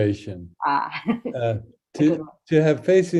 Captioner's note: chuckling